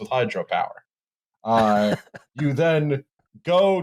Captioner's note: chuckles softly